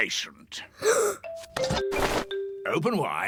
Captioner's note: gasps